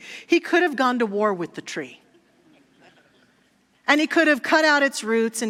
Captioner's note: audience laughter